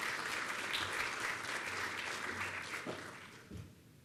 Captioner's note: applause